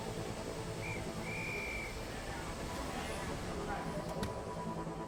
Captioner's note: whistle trilling